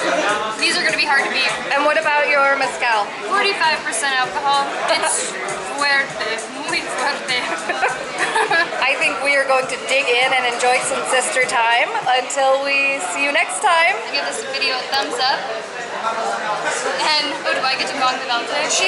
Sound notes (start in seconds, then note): 7.4 laughter